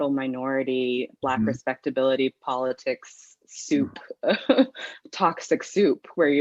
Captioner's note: chuckles